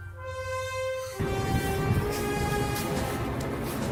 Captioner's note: monster running